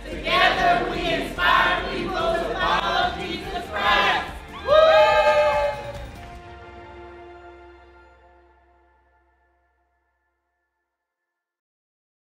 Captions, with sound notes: - Together, we inspire people to follow Jesus Christ. (cheering) (upbeat music)